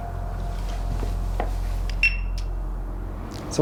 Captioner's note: equipment beeps